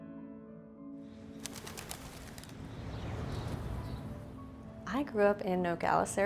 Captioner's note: bird wings flapping